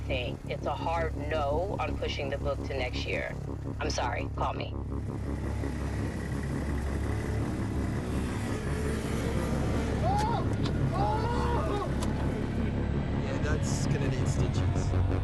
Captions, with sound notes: It's a hard "no" on pushing the book to next year. I'm sorry. Call me. [screaming] Yeah, that's gonna need stitches.